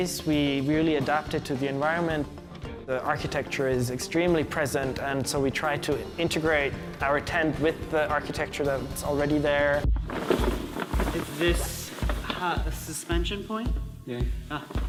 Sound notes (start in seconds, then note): 10.0 crumpling